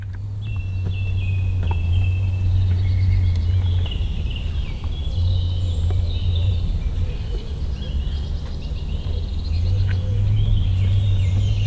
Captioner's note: the sound of various birds in the forest